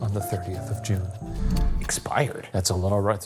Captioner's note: screen whooshing